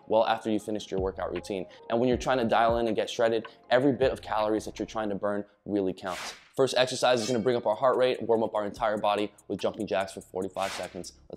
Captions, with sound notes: well after you finished your workout routine. And when you're trying to dial in and get shredded, every bit of calories that you're trying to burn really counts. (whooshing sound) First exercise is going to bring up our heart rate, warm up our entire body, with jumping jacks for 45 seconds.